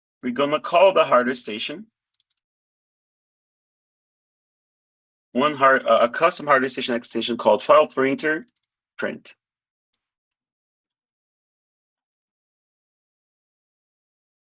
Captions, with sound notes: we're gonna call the hardware station. (keyboard clicking) One hard, a custom hardware station extension called file printer print.